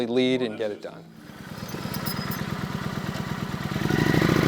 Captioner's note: engine running